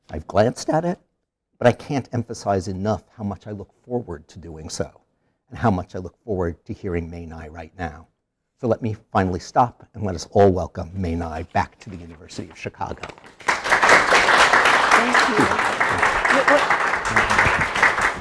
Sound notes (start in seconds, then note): 13.0 audience applauding